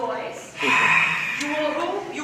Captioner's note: roar